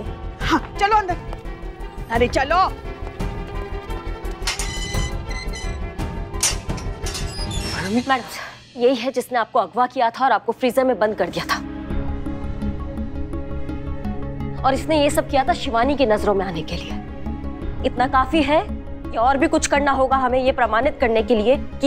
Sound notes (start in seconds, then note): 4.3 prison door opening sound; 6.2 prison door closing sound